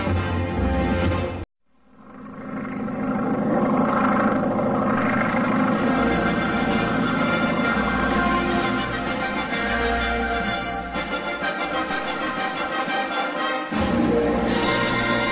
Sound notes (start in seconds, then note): 1.8 biplane propeller noises; 5.4 proud fanfare playing